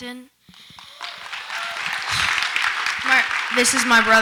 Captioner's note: audience applauds